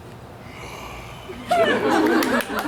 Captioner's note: Bottom growls softly; audience laughs